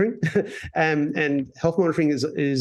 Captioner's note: laughs